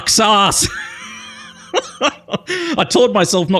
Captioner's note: laughs